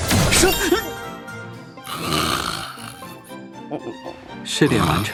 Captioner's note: snores